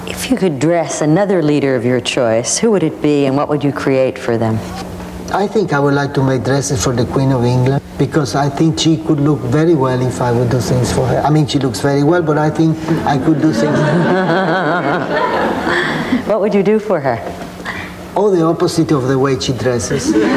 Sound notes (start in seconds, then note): 12.8 audience laughs; 19.9 audience laughing